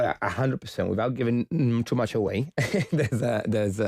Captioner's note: chuckles